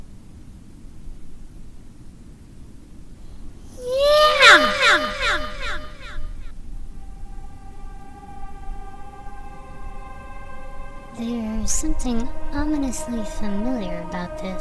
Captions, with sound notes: (echoing) Yeah!! *ominous music playing* There's something ominously familiar about this.